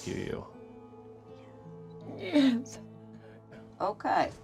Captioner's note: crying